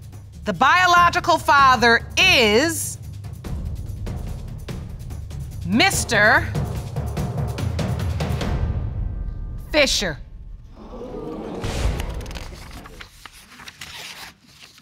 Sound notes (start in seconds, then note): 10.8 audience exclaiming; 11.9 paper rustling